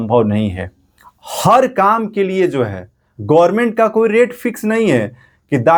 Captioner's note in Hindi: नाक से की जाने वाली आवाज़